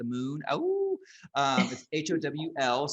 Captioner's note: howling